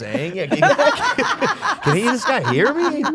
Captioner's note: Steph laughing